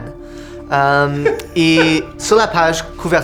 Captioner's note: laughs